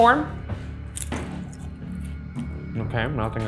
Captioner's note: popcorn crunching